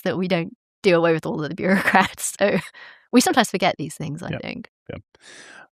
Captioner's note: chuckles